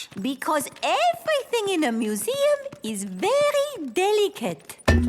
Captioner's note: none